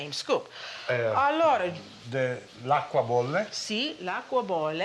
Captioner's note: speaking Italian